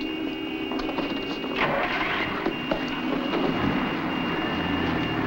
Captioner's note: car engine starts